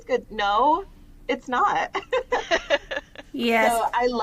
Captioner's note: laughter